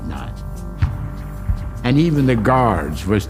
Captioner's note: gun fires